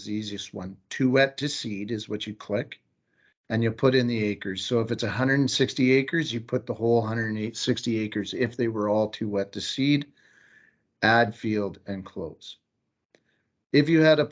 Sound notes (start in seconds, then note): 13.1 click